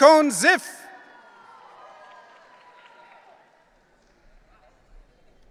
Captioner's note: audience cheering